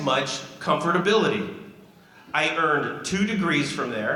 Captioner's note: none